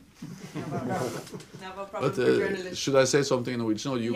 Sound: laughter

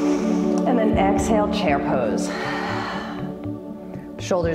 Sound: exhale

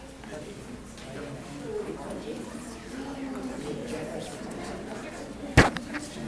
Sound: audience members chattering

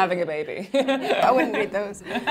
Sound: laughing

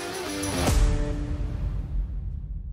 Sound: boom sound

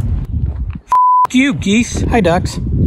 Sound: beep

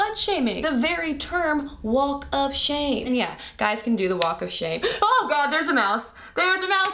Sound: loud gasp

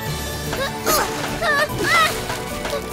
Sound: grunting

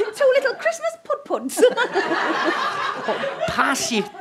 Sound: audience giggles

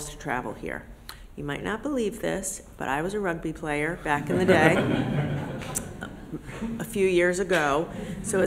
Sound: laughter

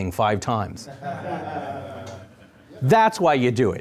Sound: audience laughing

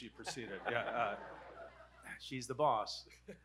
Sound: audience laughing

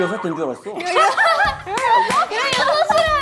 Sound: haha

